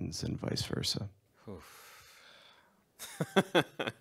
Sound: laughs

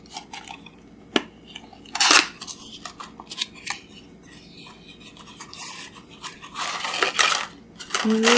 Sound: unboxing sounds

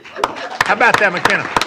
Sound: applause

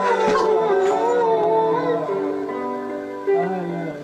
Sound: crying

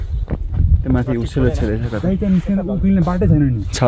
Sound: indistinct conversation

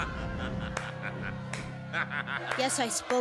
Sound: evil laughter; a few people clap

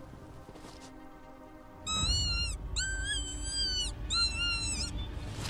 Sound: rabbit call

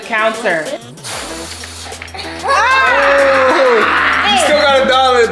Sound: air swooshing; all screaming

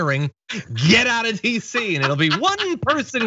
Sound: laugh

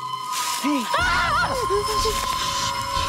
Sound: screams

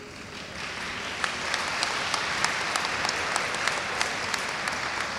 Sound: audience applauds

